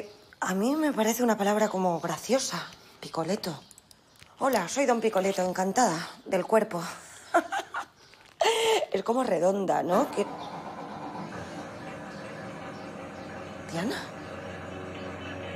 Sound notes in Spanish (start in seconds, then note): 7.1 Risas; 9.9 Motor arrancando